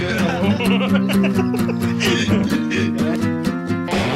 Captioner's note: laughs